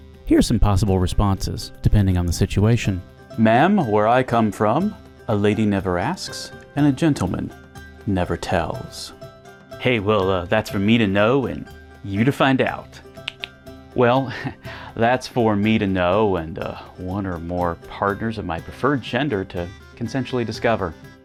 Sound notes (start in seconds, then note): 14.3 chuckles